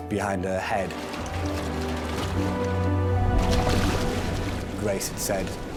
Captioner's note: intense music; water trickles